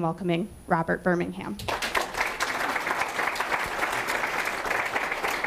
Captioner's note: audience applauding